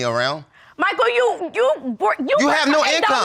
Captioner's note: stammering